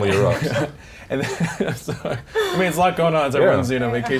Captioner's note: laughs